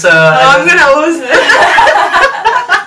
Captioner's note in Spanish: risas